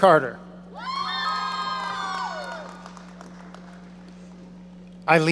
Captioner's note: audience cheering